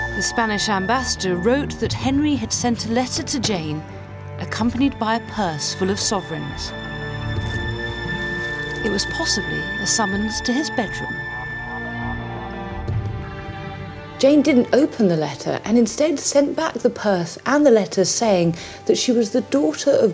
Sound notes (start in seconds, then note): 7.2 items clink